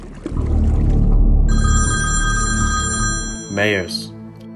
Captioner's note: phone ringing